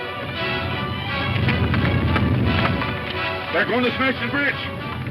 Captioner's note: rock rumbles